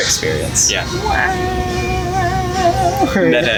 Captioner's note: silly voice